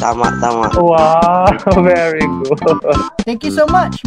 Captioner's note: laughs